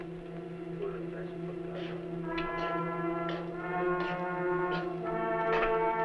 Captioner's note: non-english speech; footsteps approaching